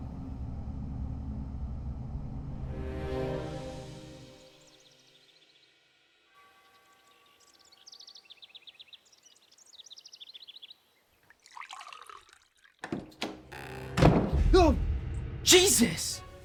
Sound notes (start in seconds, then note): 4.4 birds chirping; 12.9 door creeks; 13.6 door slams shut